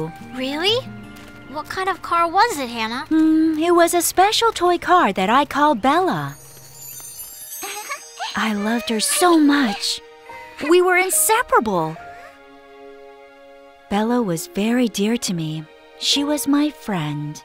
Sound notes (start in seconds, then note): 7.6 child giggles